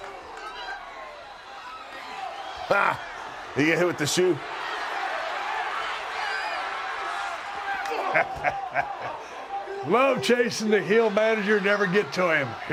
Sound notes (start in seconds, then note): 5.1 applause; 7.7 laugh